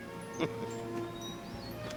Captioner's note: chuckles